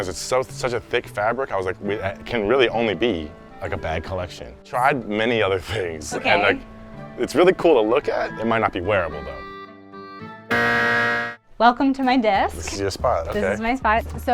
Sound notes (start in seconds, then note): 10.5 buzzer buzzing